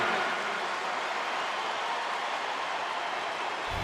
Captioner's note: crowd cheering